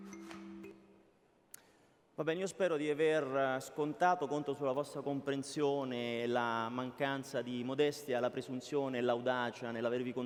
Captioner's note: speaking italian